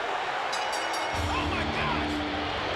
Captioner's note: bell ringing